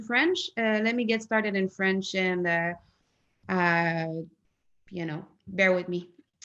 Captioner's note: in French